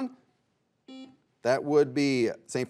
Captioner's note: buzzer buzzes